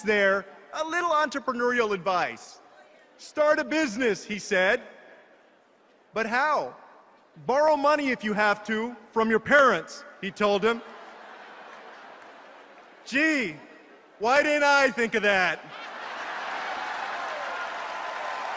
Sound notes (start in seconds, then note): 10.8 laughter; 18.4 applause and laughter